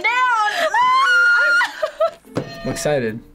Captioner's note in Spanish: risas; suena la campana